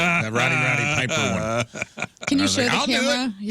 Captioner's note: laughing